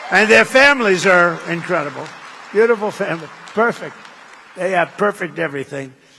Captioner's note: applause